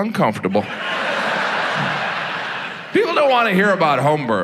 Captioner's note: audience laughs